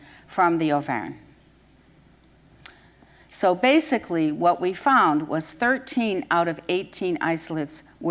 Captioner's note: none